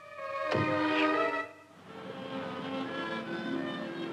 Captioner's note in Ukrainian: шипіння